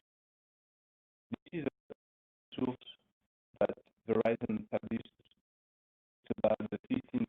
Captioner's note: audio blurs